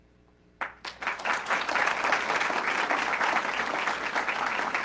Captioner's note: audience clapping